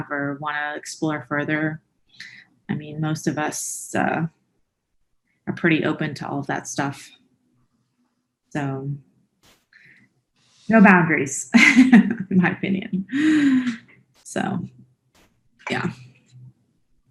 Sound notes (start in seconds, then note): 11.6 laughs